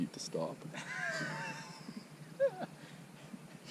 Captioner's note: laughter